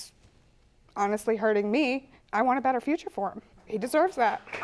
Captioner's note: audience applauding